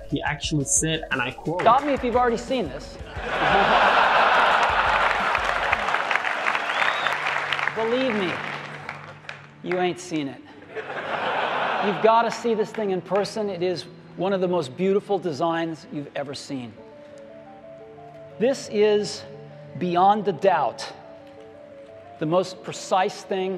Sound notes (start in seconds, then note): 3.0 laghter